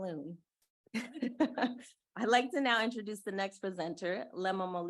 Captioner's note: chuckling